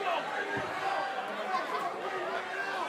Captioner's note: crowd chatter